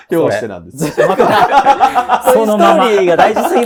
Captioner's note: laughing